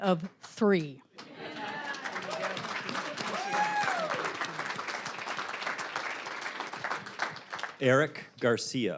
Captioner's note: applause, cheering